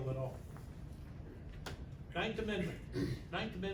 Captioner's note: clears throat